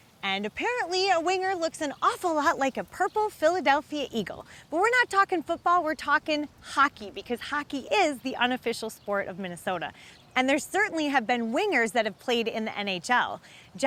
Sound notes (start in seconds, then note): none